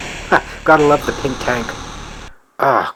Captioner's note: chuckles